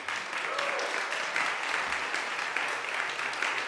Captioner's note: applause